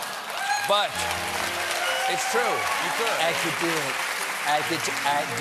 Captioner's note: applause